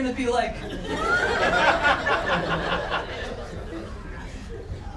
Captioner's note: crowd laughter